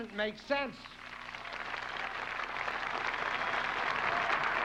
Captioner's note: applauding